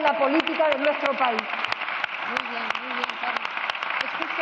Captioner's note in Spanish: Aplausos